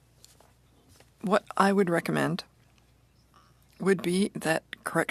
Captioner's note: speaking French